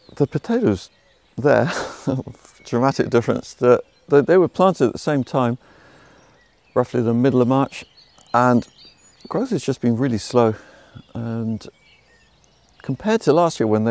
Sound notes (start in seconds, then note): 1.5 laughs